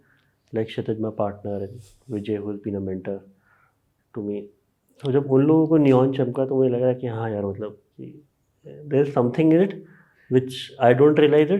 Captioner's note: speaks in Hindi